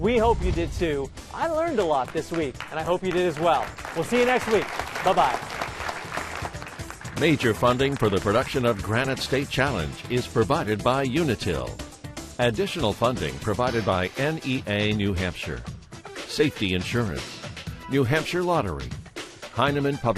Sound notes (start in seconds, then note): 5.2 applause